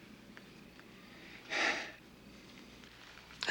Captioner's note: sighs